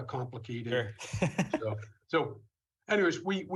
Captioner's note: laughs